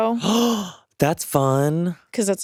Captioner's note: gasps